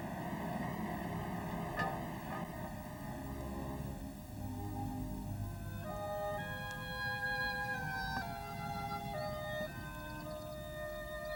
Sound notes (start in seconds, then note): 3.1 truck driving